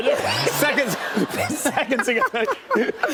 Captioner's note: laughter